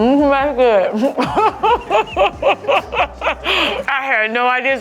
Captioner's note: laughs